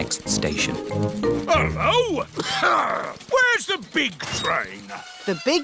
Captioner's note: coughs